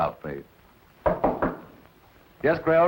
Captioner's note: knock on door